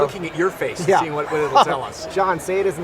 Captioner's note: laughs